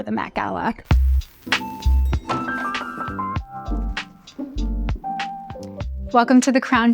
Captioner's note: upbeat music; elevator bell rings